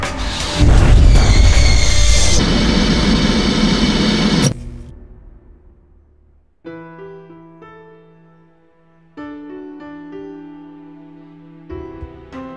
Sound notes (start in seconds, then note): 2.1 static buzzing; 6.9 dramatic piano music